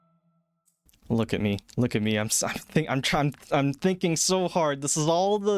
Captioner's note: stuttering